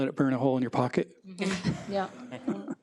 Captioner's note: attendees laugh